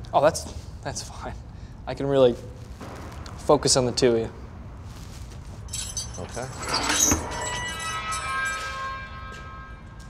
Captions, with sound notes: -Oh, that's... that's fine. I can really... focus on the two of you. -Okay. [keys jiggle] [gate creaks open eerily]